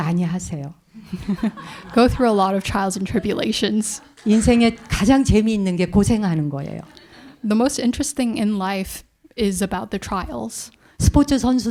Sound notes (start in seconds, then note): 0.3 speaking in Korean; 1.0 audience laughs; 4.9 speaking in Korean